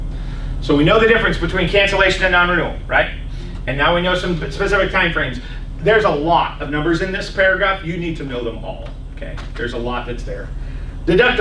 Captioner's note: laughs